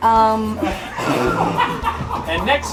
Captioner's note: laughter